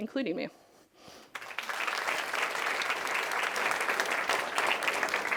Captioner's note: audience applauding